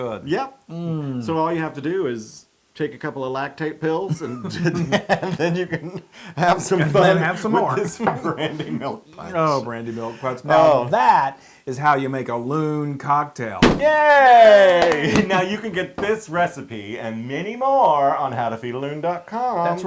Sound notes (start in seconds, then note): 4.2 laugh; 14.4 applause